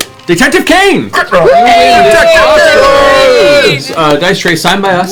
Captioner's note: cheering